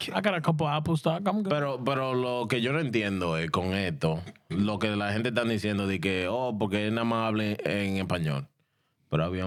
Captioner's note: speaking In Spanish